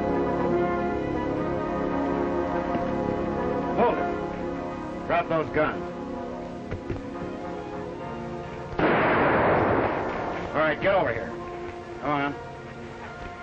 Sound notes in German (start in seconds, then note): 6.8 Waffen donnern; 8.7 Waffen schießen